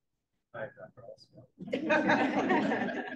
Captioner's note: laughter